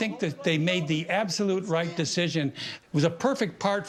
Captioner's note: none